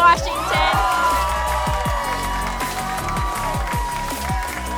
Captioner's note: audience cheering; energetic music